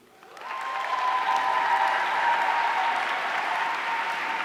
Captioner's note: audience cheering